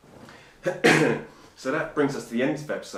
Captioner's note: coughing